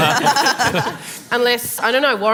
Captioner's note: laughter